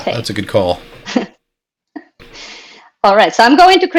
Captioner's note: laughs